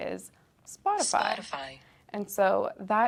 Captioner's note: automated voice